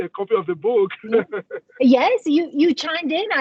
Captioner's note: laughs